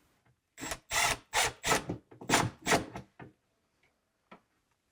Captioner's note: tool whirring